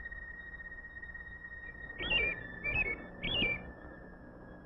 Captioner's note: bird chirping